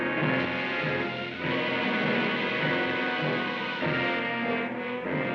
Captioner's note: gas hisses; dramatic music